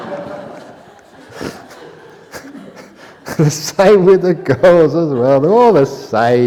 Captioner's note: laughter